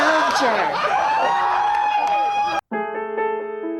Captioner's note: cheering